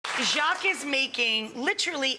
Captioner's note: audience applauds